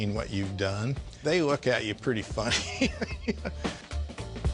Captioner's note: laughs